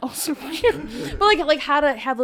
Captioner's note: everyone chuckling